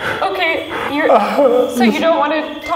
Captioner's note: gasps